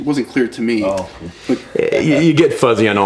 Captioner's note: laughs